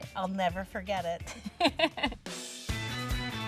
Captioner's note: laughs